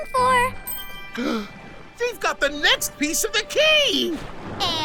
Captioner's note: Crusher gasps